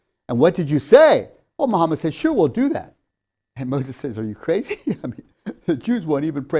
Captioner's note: laughs